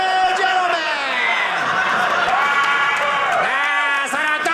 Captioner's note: audience laughing